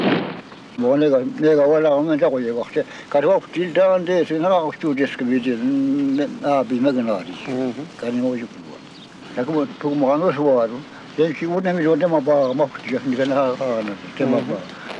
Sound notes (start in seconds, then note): 0.9 resident speaking in foreign language